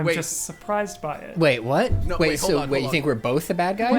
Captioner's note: pat